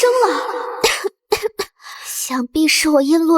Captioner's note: cough cough